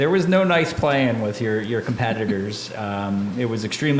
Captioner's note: laughing